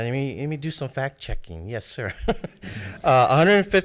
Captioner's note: laughs